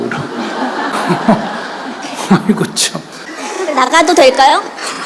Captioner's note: Sunim/Audience Laughter